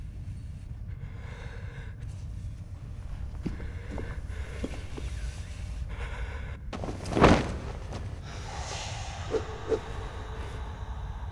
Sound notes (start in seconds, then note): 1.5 man breathing heavily